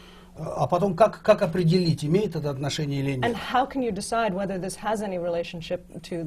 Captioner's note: foreign language not transcribed